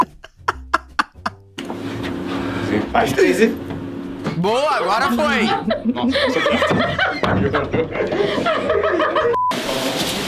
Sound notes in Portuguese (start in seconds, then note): 5.4 risadas; 9.3 som de bipe